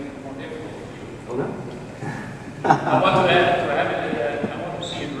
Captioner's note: laughs